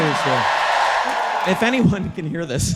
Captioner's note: audience cheering